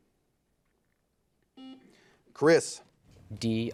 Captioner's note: buzzer beeping